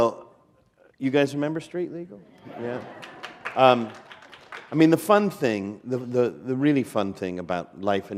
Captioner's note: applause